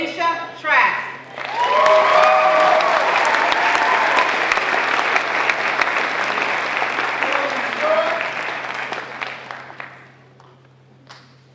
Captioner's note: applause